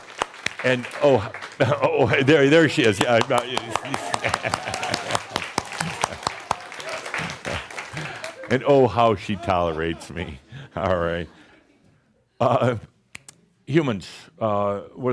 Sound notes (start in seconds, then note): 0.0 audience applause; 4.2 claps and more audience applause